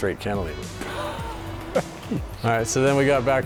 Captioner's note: laughter